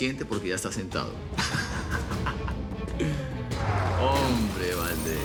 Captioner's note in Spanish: Ríe